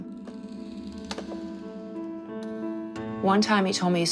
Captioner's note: floor creaking